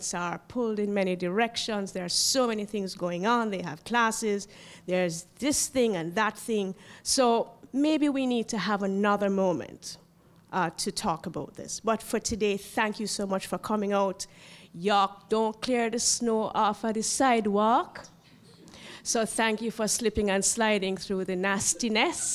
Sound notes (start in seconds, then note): 17.9 laugh